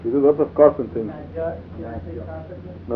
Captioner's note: Farsça konuşuyor